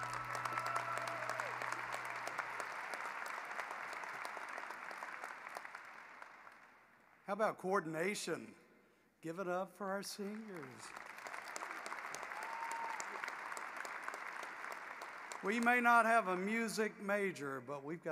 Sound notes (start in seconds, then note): 2.4 applause